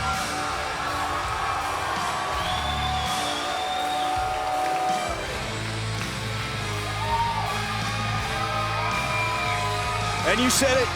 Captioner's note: cheers & applause